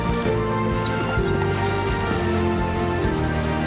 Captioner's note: mongrel whimpers